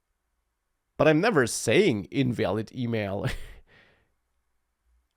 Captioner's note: laughs